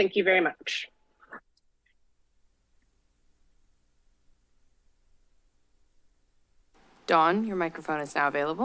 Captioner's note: silence